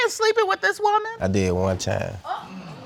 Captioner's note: audience gasps